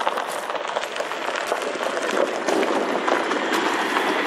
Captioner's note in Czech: zvuk přijíždějícího vozidla